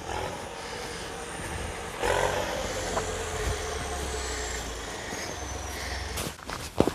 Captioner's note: the sound of the tractor ... is plowing the snow